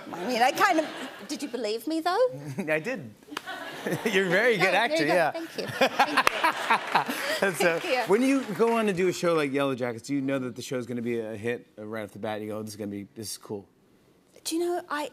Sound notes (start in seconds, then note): 5.4 laughter